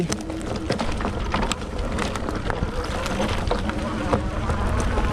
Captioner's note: bike engine roaring